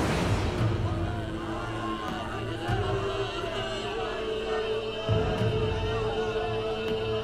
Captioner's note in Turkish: Kalabalık bağrışma sesleri